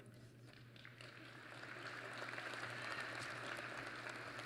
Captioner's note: applause